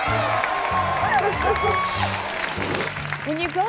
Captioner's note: crowd applauding; dog barking; audience clapping